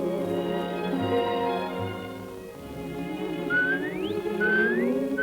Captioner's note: bird whistling